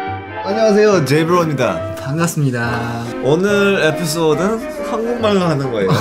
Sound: Korean

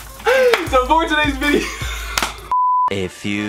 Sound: laughs

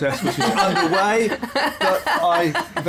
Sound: laughter

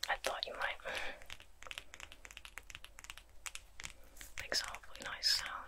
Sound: tapping

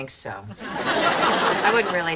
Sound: audience laughing

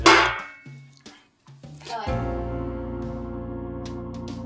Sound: can clanging

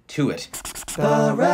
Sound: pen scratches

